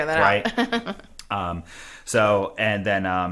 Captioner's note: laughs